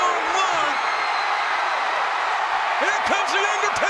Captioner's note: crowd cheering